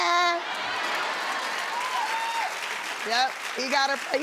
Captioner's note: cheering and applauding